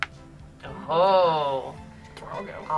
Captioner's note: group hums